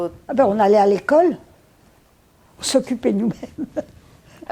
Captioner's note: laughing